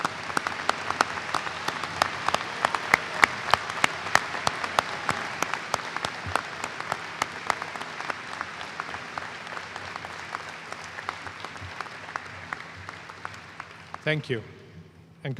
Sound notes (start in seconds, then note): 0.0 applause